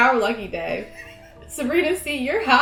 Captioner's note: giggling